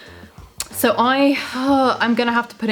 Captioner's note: sighs